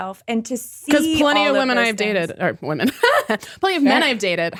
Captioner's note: laughs